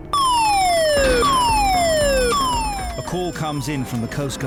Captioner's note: alarm blaring